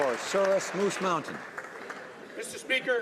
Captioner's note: some Applause